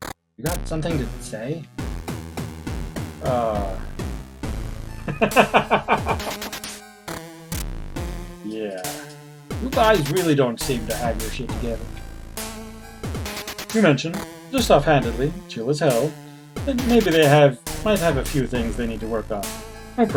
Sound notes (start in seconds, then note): 5.0 laughs